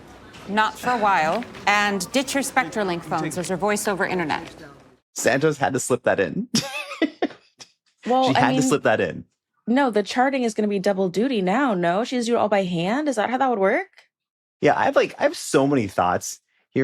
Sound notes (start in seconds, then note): 8.0 laughs